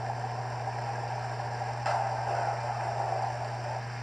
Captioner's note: thunder Rumbling